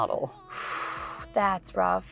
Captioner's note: Georgia sighs